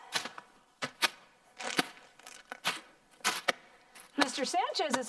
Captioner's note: plastic crackling